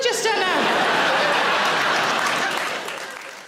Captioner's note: audience laughing; audience applauding